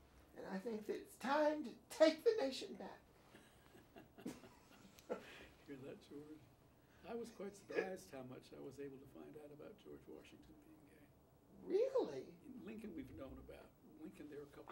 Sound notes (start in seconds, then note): 3.3 laughs